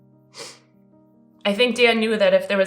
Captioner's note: sniffling